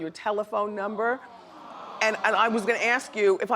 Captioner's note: audience groans